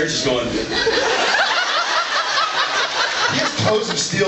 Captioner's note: laughs